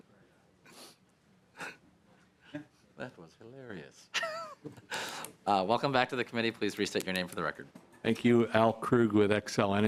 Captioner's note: laughter